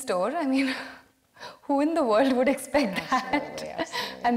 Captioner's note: laughs